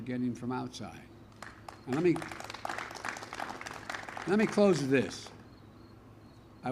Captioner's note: applause